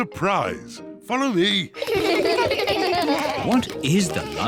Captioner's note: kids laugh